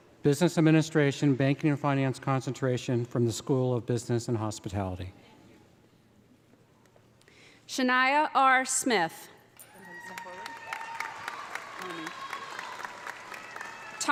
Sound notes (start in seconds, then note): 9.6 audience applauding; 9.7 audience cheering